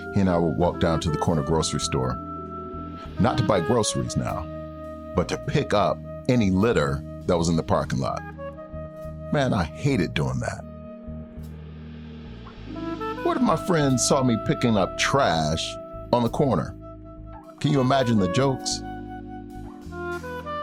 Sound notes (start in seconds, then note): none